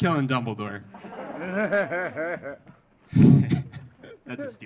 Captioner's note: audience laughing